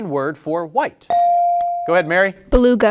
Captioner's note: bell ringing